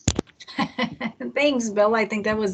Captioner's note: laughs